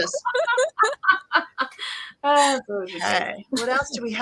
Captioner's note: laughter